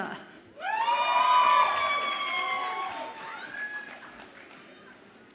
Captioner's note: audience applauds and cheers